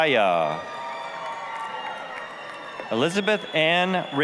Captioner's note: applause, cheering